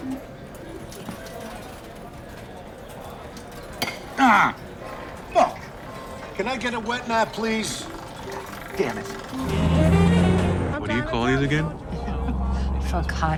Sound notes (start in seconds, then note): 0.2 patrons chatting; 3.7 plate clinking; 8.2 horn playing